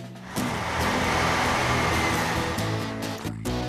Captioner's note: engine Running